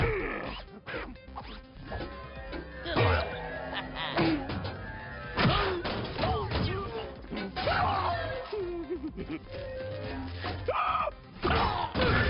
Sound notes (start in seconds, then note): 3.3 laughs; 4.1 clanking; 5.4 yelps; 11.3 clanking; 11.4 screams